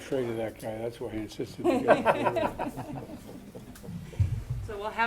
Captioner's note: laughter